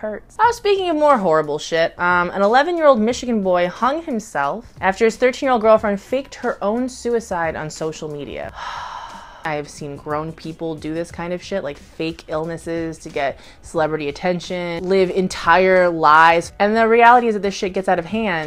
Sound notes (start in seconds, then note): 8.5 sighs